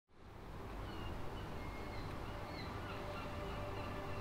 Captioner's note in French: Mouettes et vagues au loin